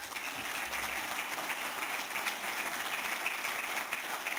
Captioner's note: applause